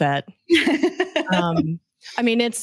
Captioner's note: laughs